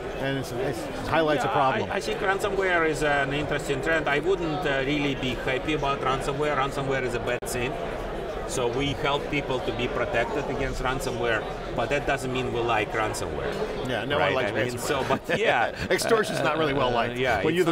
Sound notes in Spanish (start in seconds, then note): 14.8 risas